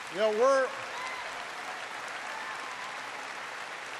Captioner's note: applause